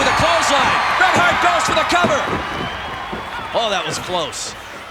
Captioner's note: audience cheering